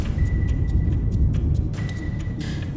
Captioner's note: radar bleeps